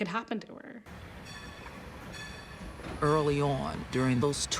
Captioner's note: bell ringing